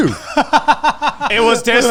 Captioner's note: laughs